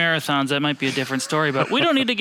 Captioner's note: laughs